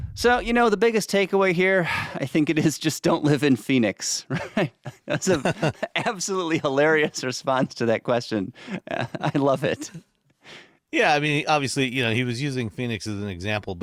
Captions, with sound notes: So, you know, the biggest takeaway here, [chuckles] I think it is just don't live -in Phoenix, right? [laughs] That's a- -[laughs] ... absolutely hilarious response to that question. [chuckling] I love it. Yeah. I mean, obviously, you know, he was using Phoenix as an example-